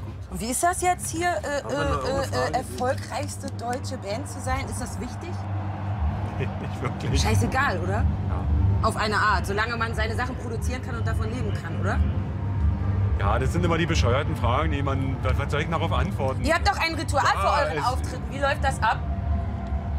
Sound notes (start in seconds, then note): 6.4 laughs